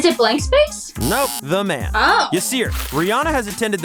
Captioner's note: buzzer buzzing